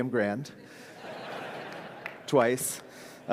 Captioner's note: audience laughs